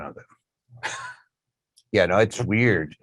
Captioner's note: laughs